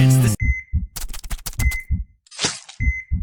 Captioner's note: beeping